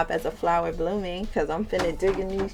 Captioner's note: crates thudding